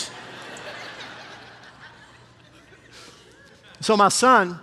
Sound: congregation laughing

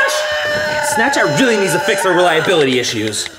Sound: keyboard clicks

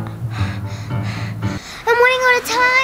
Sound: panting

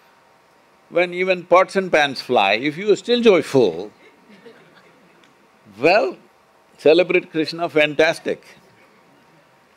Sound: few laugh

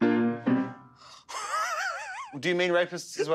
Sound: laughs

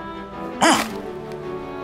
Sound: gastric noise

